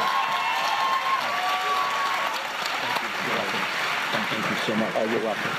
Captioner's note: applause